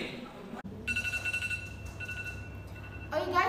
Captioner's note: alarm rings